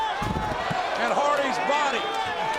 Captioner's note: body thuds